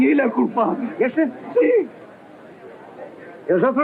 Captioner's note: speaking portuguese